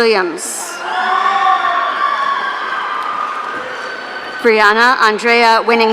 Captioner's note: audience cheering